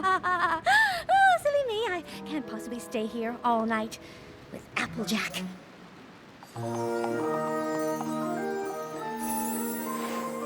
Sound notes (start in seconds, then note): 0.3 chuckles nervously; 6.5 tinkling